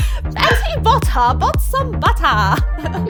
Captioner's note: fake British accent